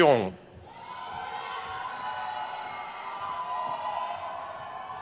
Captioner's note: crowd cheers